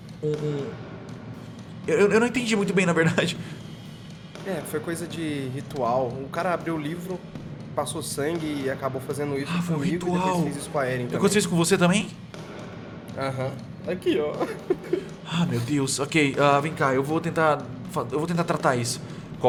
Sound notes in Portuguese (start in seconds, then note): 14.3 sons de choro